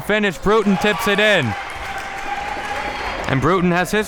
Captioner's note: audience applauding